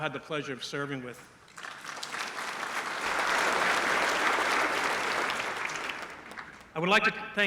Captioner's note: applause